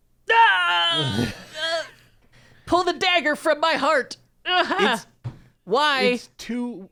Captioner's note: groans